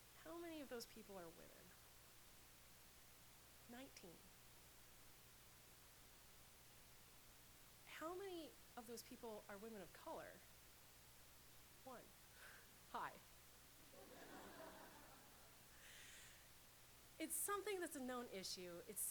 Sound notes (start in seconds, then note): 13.9 laughter